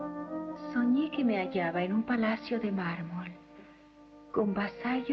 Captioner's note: reciting